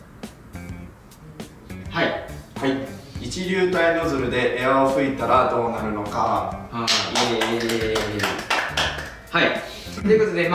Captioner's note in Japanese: 拍手